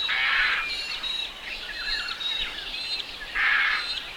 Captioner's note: birds calls